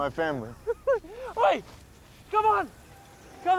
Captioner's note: laughs